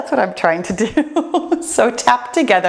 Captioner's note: laughs